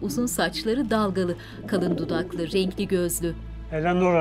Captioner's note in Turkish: Güvercin sesi